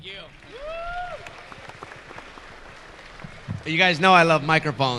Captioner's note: audience clapping